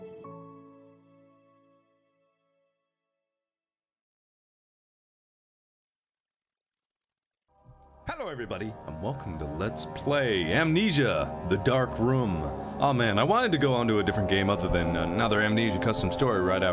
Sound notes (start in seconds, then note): 6.0 noise of rising ticker